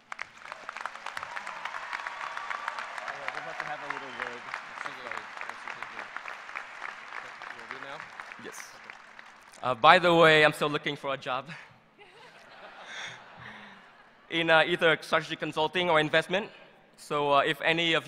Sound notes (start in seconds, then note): 8.0 applause